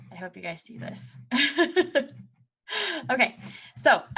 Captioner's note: chuckles